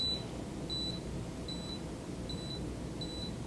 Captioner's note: machine beeps; machine beeps